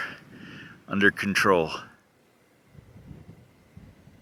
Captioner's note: wind noises